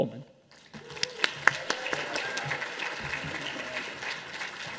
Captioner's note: audience applauding